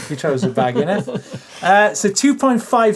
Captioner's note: laughs